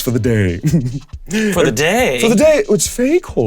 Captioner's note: Damien giggling mischievously